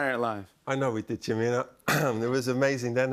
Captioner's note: clears throat